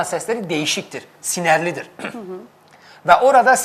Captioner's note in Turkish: boğazını temizler